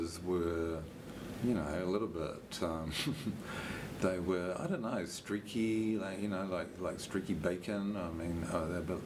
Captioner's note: chuckles